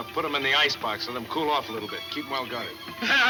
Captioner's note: laughing